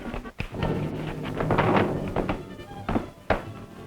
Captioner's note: loud thud